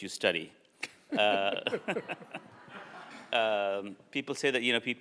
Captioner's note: both laugh and audience laughs